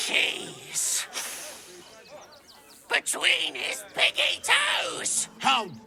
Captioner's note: sniffs